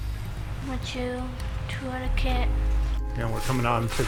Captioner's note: child speaking foreign language